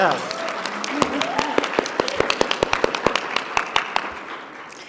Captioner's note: audience clapping